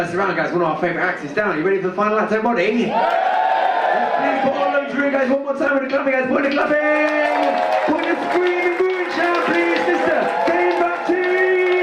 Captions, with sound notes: One of our favorite acts is down. You ready for the final act, everybody? (audience cheer) Please, one more time with the clapping, everybody clapping! (audience cheer) This is Dane Baptiste!